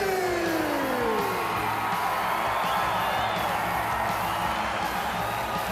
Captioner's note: crowd cheering